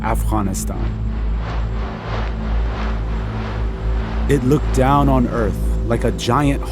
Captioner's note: soundbite of drone flying